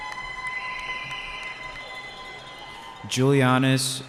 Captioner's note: cheering